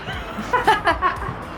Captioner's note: laugh